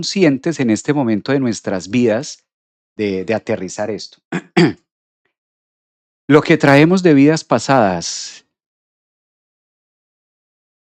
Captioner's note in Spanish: carraspeo